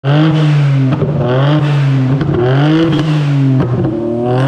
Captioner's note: car engine revving